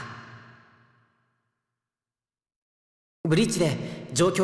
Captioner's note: silence